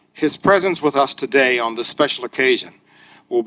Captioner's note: none